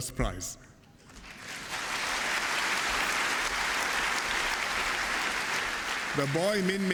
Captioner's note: applause